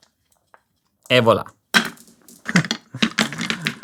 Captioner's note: marbles rolling